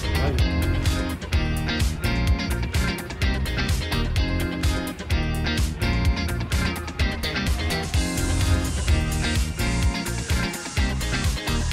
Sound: sounds of giddiness

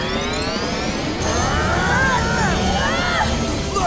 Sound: grunting

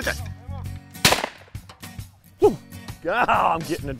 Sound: gun firing

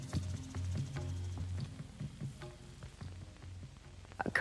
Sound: vinyl crackling

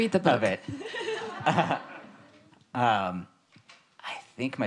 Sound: laughing

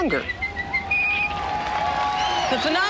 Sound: Mickey Mouse whistling; crowd cheering

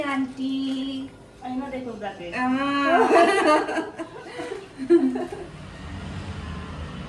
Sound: loud laughter

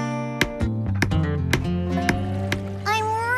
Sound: hammer Tapping

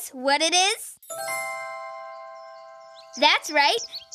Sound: bells chiming

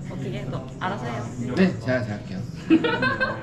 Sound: haha

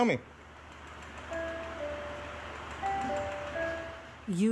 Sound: electronic humming

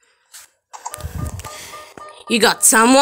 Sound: siren sound

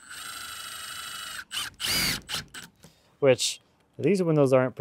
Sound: drill whirs

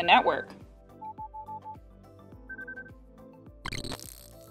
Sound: digital sounds

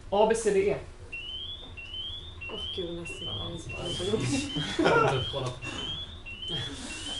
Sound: beeper

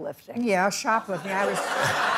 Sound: laughter

